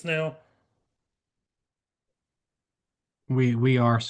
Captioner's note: silence